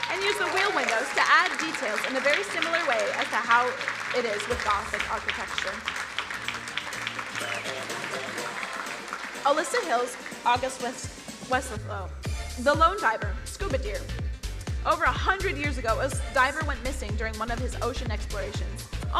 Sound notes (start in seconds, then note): 5.9 crowd applauding; 7.4 buoyant music